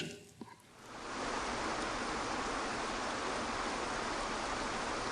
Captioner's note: water spattering